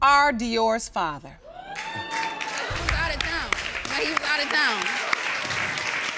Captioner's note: audience cheering